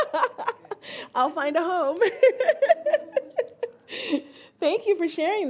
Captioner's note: all laugh; laughs